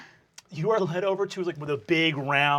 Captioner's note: normal voice